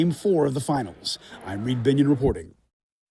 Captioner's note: applause